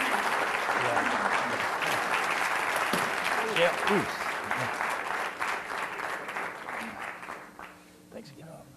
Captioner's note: applause